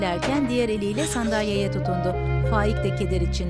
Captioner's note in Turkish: Ağlama sesi